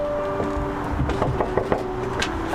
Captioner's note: knocking